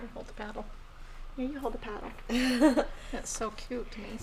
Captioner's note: laughing